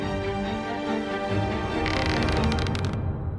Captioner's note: rope creaks